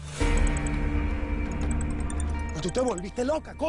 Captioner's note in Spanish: Suena el celular